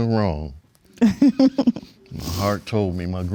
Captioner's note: laughing